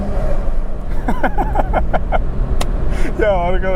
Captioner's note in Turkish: Kahkahalar